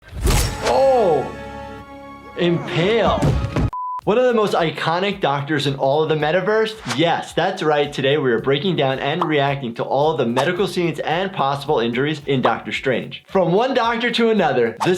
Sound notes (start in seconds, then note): 0.1 sword whooshing